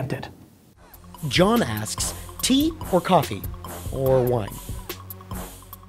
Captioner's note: voiceover